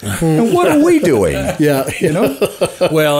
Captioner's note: co-hosts laughing